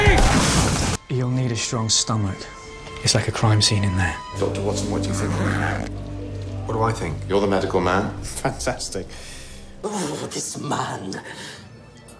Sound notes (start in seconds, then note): 0.1 crash; 5.1 zipper is unzipping